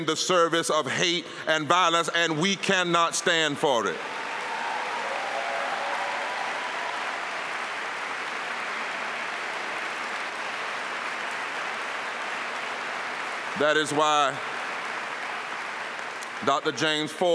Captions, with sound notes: IN THE PRESENT, HIJACKED RELIGION AND USE IT IN THE SERVICE OF HATE AND VIOLINS AND WE CANNOT STAND FOR IT -- AND VIOLENCE, AND WE CANNOT STAND FOR IT. [APPLAUSE]